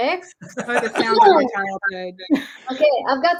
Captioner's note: laughs